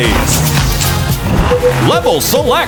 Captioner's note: beeping